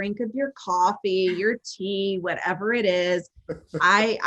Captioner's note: laughing